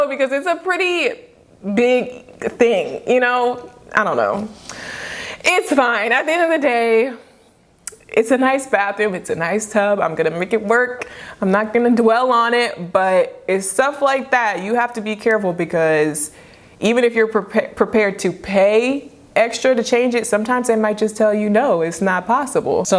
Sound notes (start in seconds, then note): 4.7 both sigh heavily